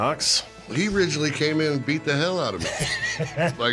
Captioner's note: laughs